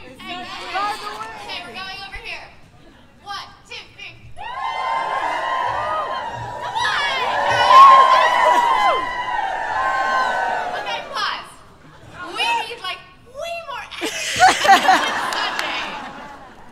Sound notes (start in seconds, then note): 0.2 cheers; 4.4 cheers; 8.1 louder cheers; 14.0 laughter